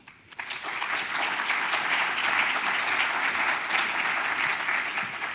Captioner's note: audience applauds